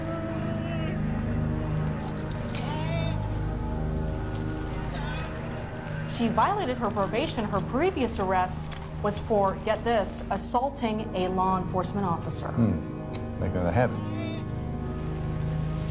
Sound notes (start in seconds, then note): 0.9 groaning; 1.4 handcuffs clinking